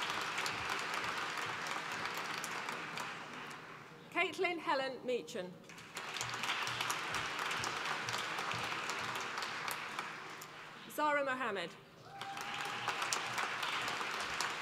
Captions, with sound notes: Caitlin Helen Meechan, (APPLAUSE) Zara Mohammed, (APPLAUSE)